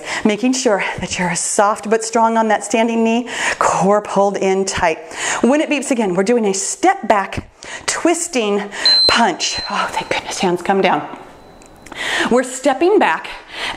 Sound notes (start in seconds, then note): 8.8 timer beeps